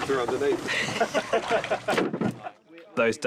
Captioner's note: all laugh